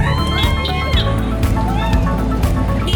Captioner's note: crowd cheering